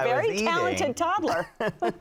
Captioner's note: laughing